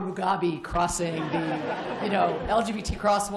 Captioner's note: laughter